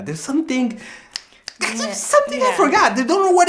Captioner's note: fingers snapping